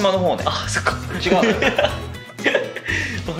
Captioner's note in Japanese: 笑い